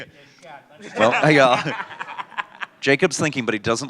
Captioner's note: laughter